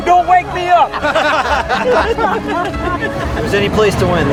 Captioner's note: laughing